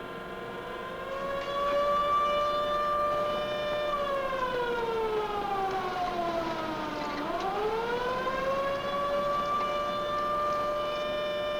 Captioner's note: siren blaring